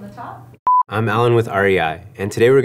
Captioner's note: high pitched tone